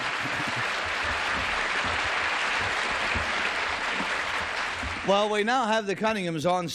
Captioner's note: applause